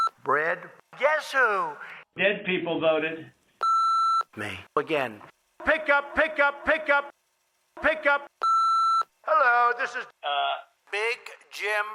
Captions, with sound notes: CALL ME BACK. ( BEEPING ) BRAD, GUESS WHO. DEAD PEOPLE VOTED. ME -- AGAIN. PICK UP, PICK UP, PICK UP.